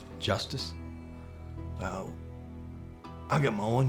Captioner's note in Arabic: لهجة اسكتلندية